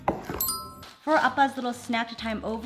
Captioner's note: bell chimes